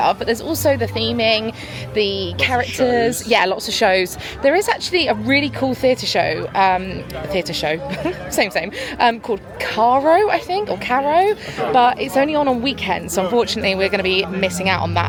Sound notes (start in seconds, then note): 7.8 chuckling